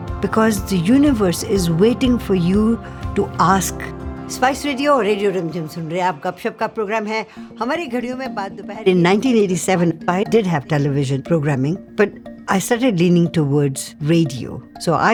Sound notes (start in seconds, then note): 6.1 speaking in Hindi